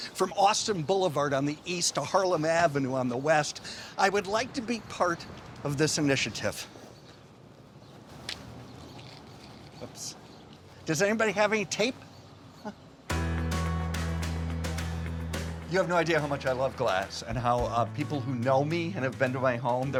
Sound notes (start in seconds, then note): 8.8 paper rustling; 13.0 warm rhythmic music